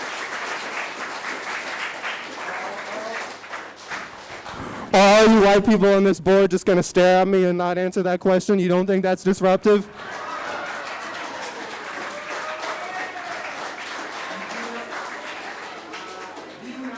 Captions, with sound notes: Are you white people on this Board just gonna stare at me and not answer that question? You don't think that's disruptive? (audience applauding) (cheering)